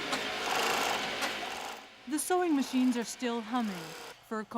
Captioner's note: machine whirring